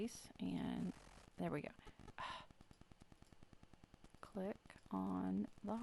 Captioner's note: sighs